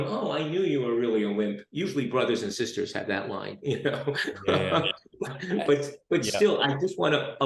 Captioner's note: laughs